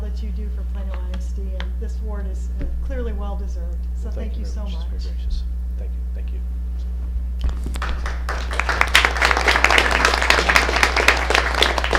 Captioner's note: applause